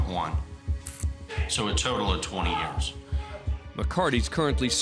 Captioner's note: shouting, cursing